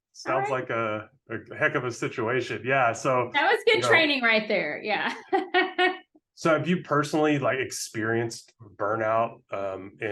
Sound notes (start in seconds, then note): 6.0 laughing